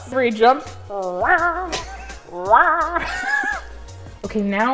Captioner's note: boing sound